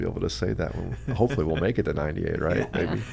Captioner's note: laughs